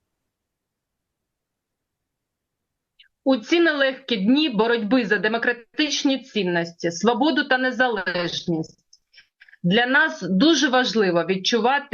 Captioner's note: foreign language